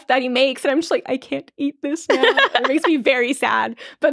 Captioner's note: laughing